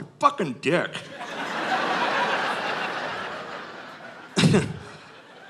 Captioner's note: audience laughing